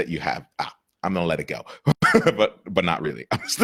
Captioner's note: laughs